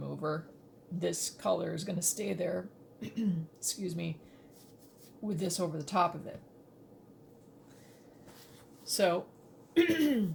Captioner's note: coughs